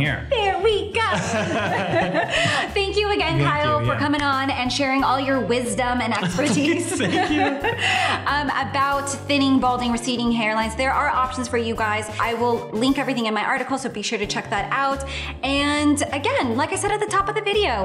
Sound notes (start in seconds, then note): 1.1 laughter